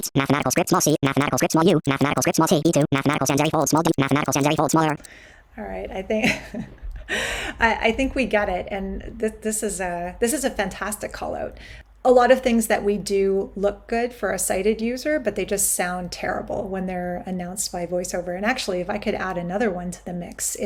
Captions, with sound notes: mathematical script small c, mathematical script small u, mathematical script small t, e 2, mathematical sans serif bold small w, mathematical sans serif bold small r. - All right, (chuckles softly) I think we get it. And this is a fantastic callout. A lot of things that we do look good for a sighted user, but they just sound terrible when they're announced by voiceover. And actually, if I could add another one to the mix,